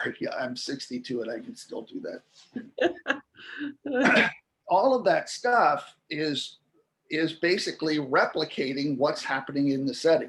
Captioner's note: laughter